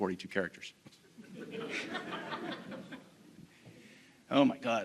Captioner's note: audience laughing